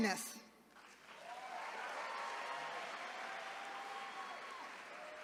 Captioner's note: attendees cheering